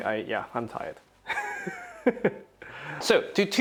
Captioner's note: laughs